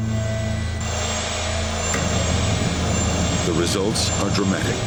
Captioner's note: engines roaring